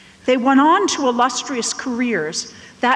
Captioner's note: none